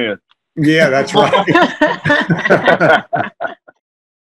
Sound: laughter

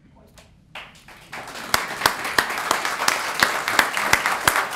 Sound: applause

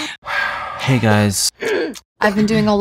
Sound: all sighing and gasping rhythmically; clears throat

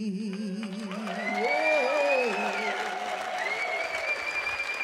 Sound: audience cheering

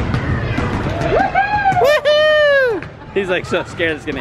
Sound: cheering

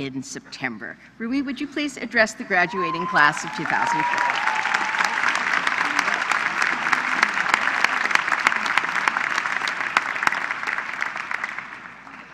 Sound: applause

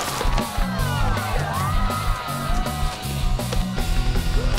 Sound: cheering

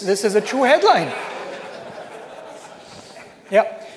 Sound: laughter

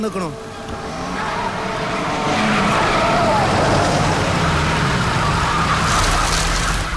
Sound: car Sound

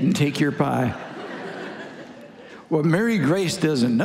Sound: congregation laughing

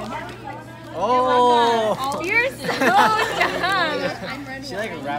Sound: laughter

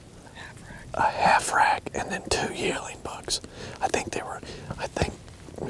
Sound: whispering

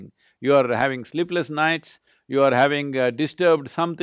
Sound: none

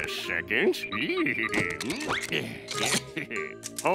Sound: giggling

